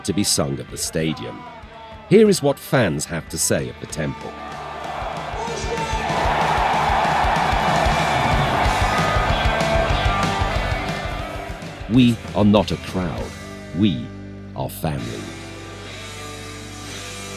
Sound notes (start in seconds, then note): 4.2 fans screaming